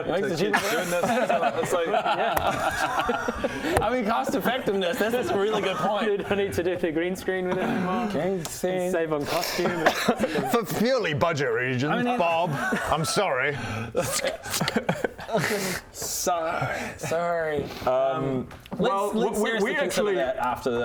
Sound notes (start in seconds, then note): 2.6 frugal laughter